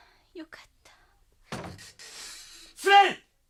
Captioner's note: SFX: door opened